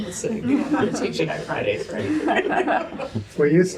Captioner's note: laughter